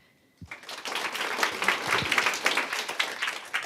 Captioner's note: applause